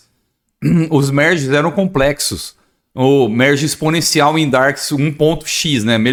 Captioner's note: clearing throat